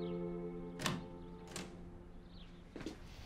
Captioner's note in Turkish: Kapı açıldı